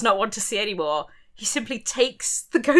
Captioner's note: none